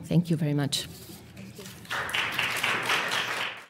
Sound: applause

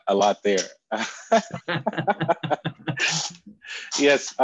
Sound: laughing

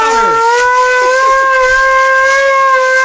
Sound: siren

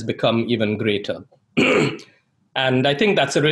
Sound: clears throat

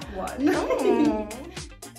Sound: laughter

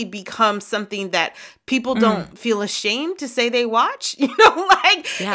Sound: laughter

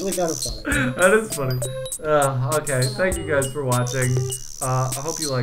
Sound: laughs

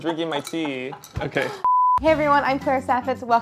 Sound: beep

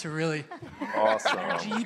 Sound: laughter

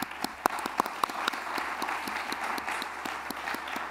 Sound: applause

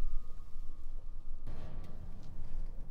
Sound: distant thud

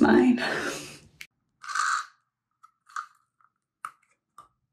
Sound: asmr sounds

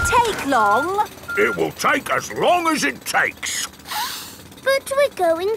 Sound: sniffs

